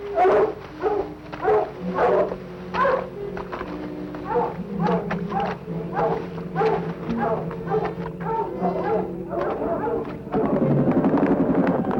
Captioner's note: barking